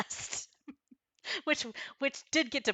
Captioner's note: laughing